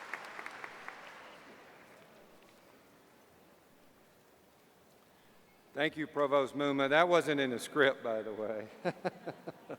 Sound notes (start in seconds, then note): 2.8 applause; 9.5 laughs